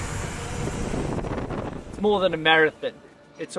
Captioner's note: wind blowing